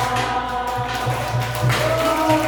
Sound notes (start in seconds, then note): 0.0 appluse